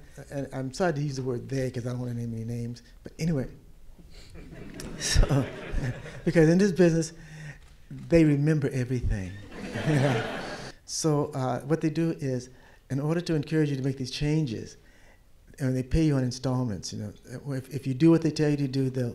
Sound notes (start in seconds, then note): 4.4 audience laugh; 9.4 louder laughter